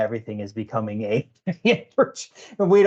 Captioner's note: laughing